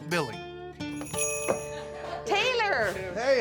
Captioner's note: door bell jingles